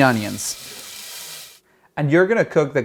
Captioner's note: food sizzles